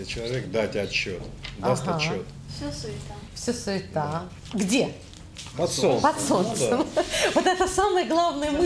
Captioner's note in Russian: смех